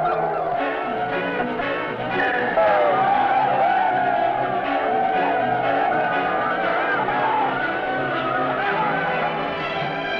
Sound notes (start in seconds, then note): 3.7 men shouting